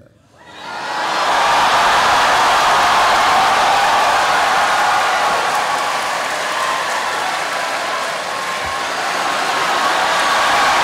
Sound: cheering

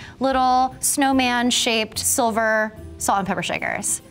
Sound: none

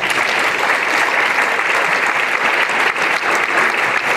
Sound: applause

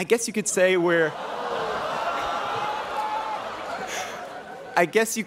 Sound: students oohing

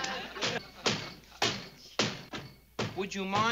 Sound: banging

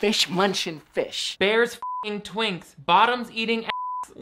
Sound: beep

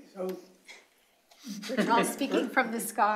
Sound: laughter

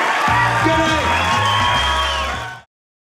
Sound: audience cheering

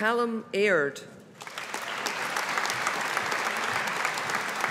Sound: audience applauding

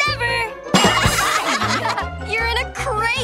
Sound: laughing

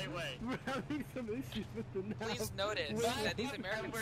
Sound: laughing

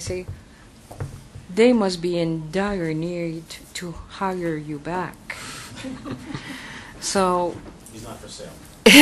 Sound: laughter

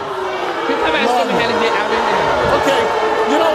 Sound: audience boos

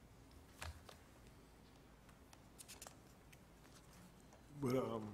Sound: paper rustling

